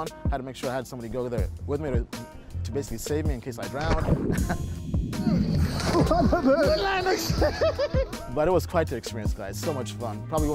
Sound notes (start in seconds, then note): 4.0 laughs; 5.1 splashing, gurgling; 7.8 laughs